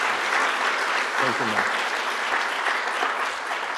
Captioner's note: applause